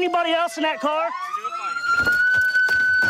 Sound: sirens

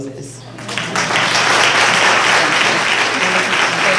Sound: applause; speaking drowned out by applause

